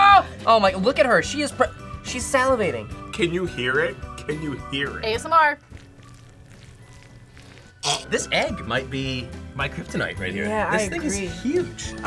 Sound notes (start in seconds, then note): 5.5 squishing noises; 5.6 gags